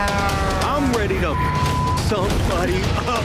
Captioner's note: horn blaring; beep